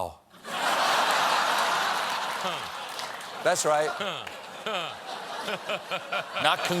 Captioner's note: laughter